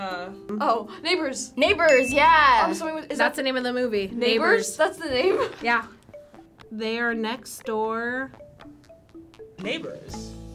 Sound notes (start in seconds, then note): 1.8 bell chiming